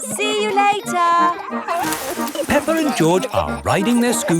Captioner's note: peppa and george laughing